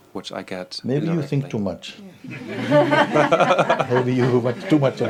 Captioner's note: laughter